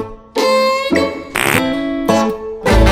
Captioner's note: Uzi farting